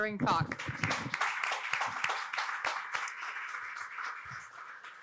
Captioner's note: audience applauding